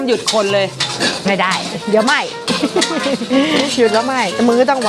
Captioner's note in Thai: เสียงหัวเราะ